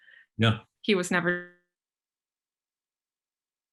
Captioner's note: audio blurs